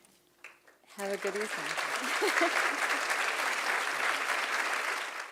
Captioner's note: applause